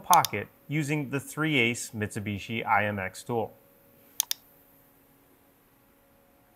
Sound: mouse clicking

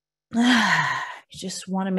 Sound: inhales; exhales

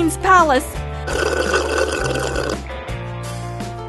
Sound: sip

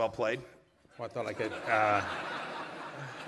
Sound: laughter

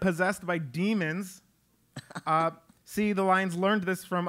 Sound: laugh

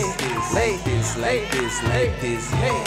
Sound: audience cheering

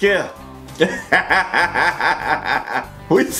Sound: approving laughter

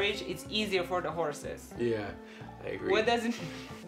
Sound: none

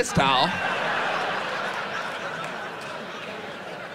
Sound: audience laughs

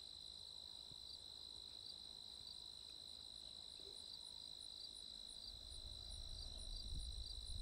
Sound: crickets chirping

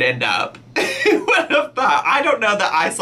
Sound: laughing

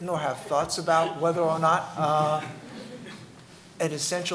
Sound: laughing

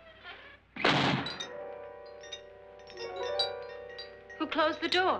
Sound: chandelier rattles; ominous music; door slams

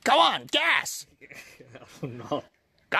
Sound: giggles

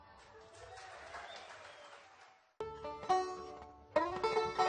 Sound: applause; lively fiddle tune

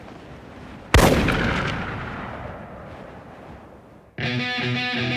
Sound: gun shooting; upbeat rock music

